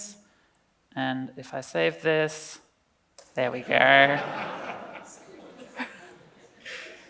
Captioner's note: laughs